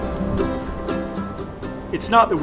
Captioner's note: wind